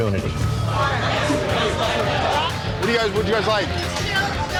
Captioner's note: indistinct customer chatter